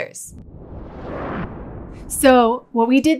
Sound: frame whooshes

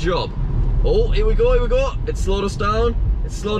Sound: tesla beeps

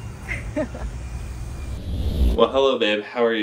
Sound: laughing

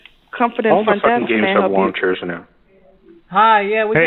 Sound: phone rings

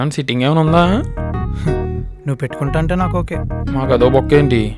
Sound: scoffs

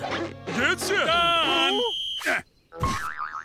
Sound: whistle blowing

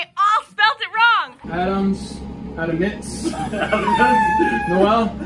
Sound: laughing

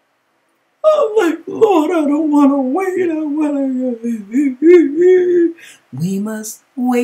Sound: boohoo Boohoo

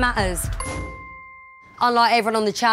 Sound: bell chimes

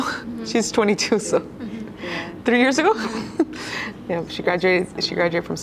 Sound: chuckles

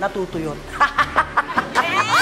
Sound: laughs

